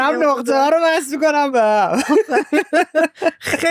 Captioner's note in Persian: خنده